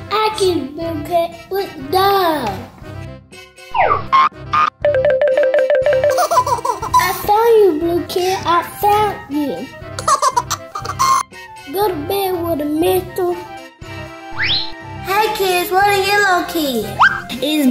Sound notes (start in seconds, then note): 4.5 upbeat sounds; 6.2 laughter; 10.0 laughter